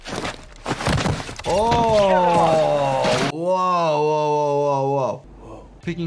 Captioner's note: body thuds